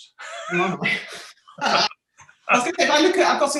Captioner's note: both laughing